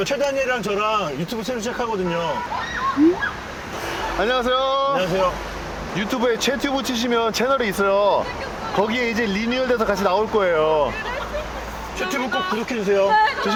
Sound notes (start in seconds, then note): 2.4 scream